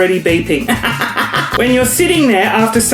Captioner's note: laughs